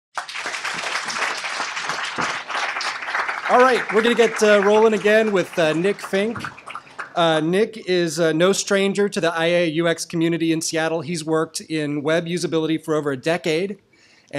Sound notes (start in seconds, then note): 0.1 applause; 3.4 voiceover